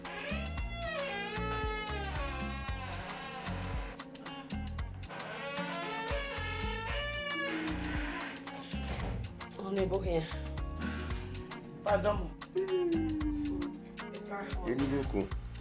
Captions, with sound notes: (door creaking) Welcome, honey! Weldone Sir. eii.... Enibokun.